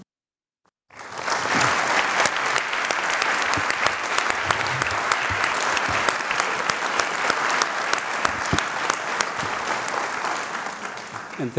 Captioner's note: applause